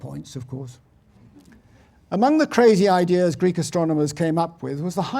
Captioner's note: laugh